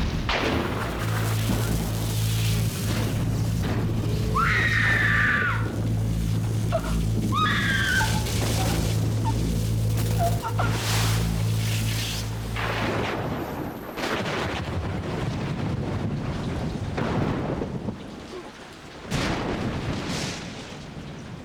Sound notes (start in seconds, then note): 2.3 Bonnie shrieking; 4.0 gasps then shrieks; 10.1 lightening crackles